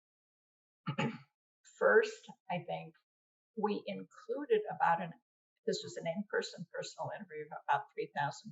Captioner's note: clears throat